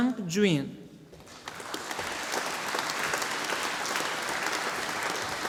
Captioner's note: audience applauding